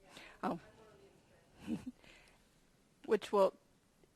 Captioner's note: murmurs